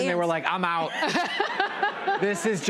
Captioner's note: laughter